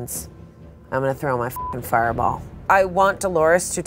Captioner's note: beep